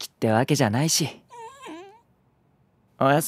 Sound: whine

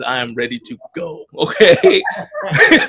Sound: laughs

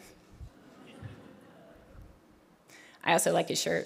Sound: audience laughing

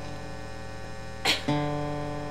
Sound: coughing

